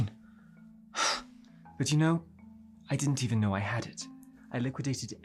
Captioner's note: sighs